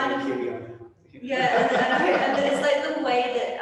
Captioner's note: all laughing